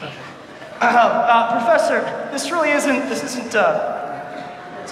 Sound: clears throat

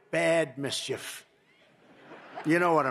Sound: laughter

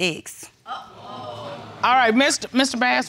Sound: audience exclaiming

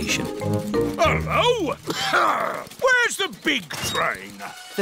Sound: coughs

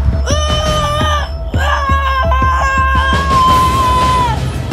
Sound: Daniel screaming

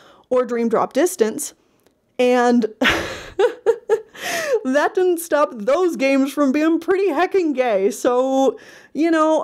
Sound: laughs

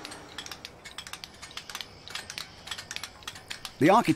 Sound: chisels clinking

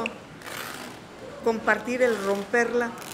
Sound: speaking in Spanish

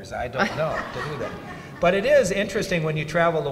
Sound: audience laughs

